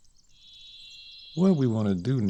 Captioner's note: beeping